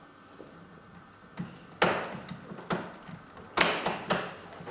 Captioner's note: knocking noise